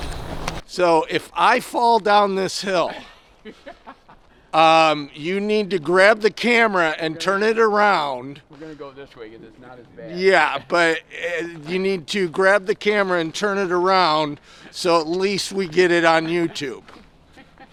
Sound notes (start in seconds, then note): 2.8 laughing; 17.3 laughing